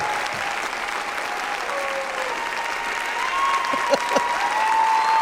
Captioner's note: audience applauding; laughs